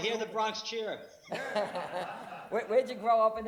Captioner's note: laughs